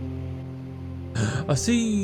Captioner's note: gasp